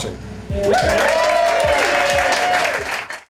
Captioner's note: crowd applause